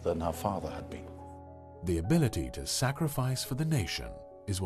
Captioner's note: voiceover